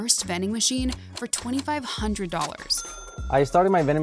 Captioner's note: cash register chiming